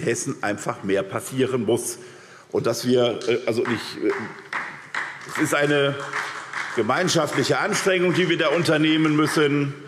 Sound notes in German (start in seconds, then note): 3.5 Vereinzelter Beifall SPD